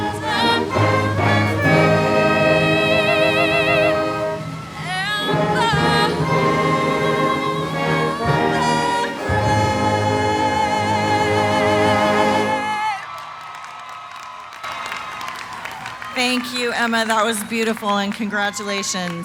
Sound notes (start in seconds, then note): 12.5 cheering, applause